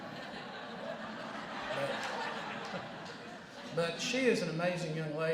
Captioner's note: laughter